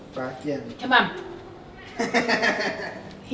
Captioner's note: Casper meows; laughing